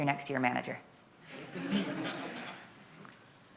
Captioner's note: laughter